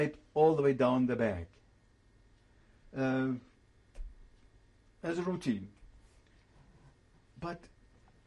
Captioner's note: pauses for 3 seconds